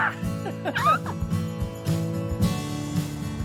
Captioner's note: Peter yells; Peter laughs; Lynn yells; traffic humming